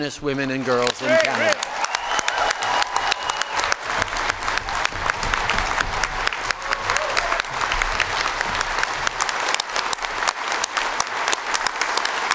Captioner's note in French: Acclamations et applaudissements